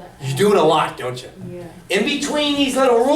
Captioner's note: voiceover; voiceover